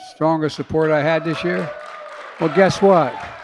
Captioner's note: applause